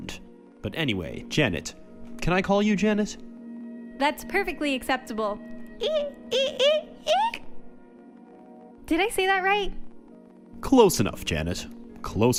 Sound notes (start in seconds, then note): 6.5 strangling noise